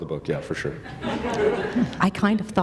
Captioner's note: laughter